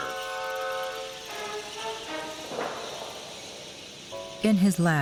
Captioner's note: rats squeaking